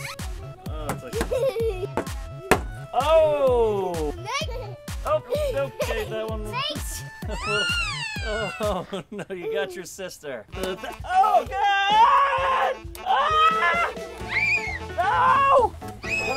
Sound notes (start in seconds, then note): 6.4 laughs; 14.2 screams